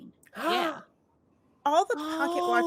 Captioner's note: gasps